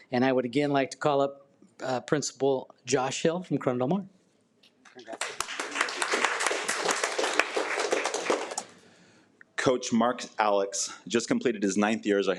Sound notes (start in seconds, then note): 5.0 attendees applaud